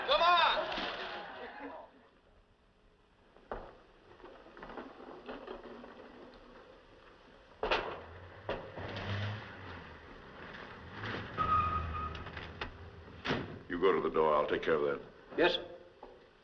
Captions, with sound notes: [ Vehicle Approaching ] [ Brakes Squeal ] [ Door Opens, Closes ] You go to the door. I'll take care of that. Yes, sir.